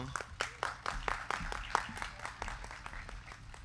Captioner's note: crowd clapping